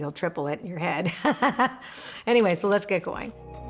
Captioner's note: laughs